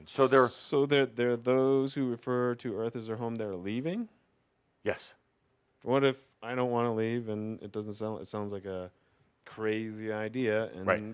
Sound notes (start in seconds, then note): none